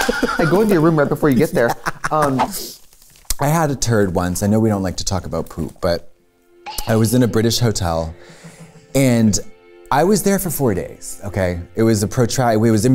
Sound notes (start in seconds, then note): 0.0 laughs